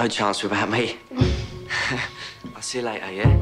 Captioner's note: both laugh